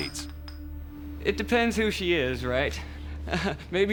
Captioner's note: chuckles